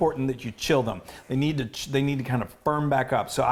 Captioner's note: none